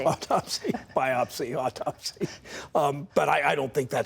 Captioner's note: laughter